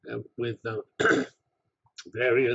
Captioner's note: cough